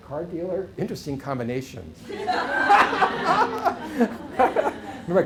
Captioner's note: laughter